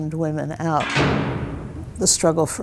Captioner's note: locking sound